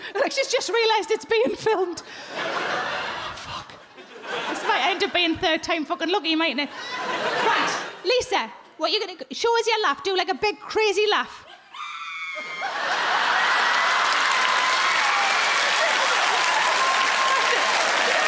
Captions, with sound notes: like she's just realised it's being filmed. "Oh fuck." (crowd laugh) This might end up being third time fuckin' lucky mightn't it? Right, Lisa what you're gonna do... show us your laugh, do like a big, crazy laugh. (she screams and laughs loudly) (crowd cheer)